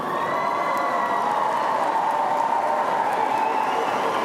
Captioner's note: audience applauding